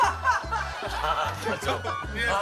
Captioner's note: laughs